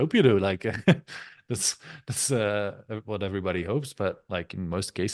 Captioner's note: chuckles